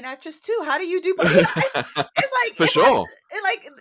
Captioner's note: laughter